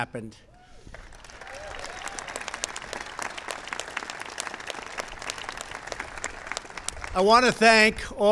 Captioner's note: applause